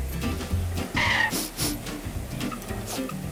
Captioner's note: sniff again